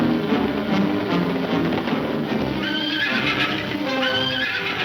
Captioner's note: horses neighing